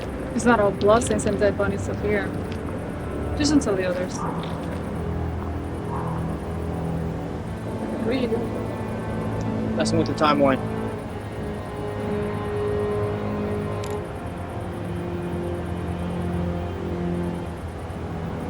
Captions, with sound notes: Well, it's not all blood stains and dead bunnies up here Just don't tell the others What are you doing? Messing with the timeline (Phone clicks open)